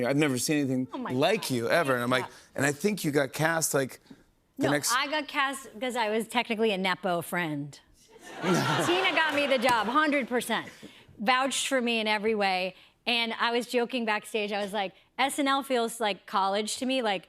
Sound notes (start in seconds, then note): 8.2 laughter